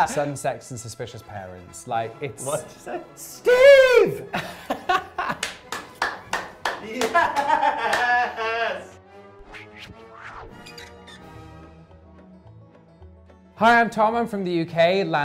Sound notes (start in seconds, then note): 4.0 yelling